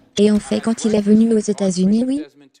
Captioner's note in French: L'audience applaudit